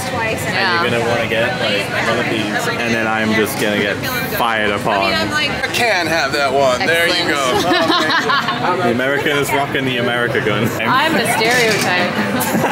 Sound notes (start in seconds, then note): 7.6 evil laugh